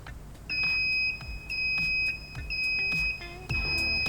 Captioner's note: press beeps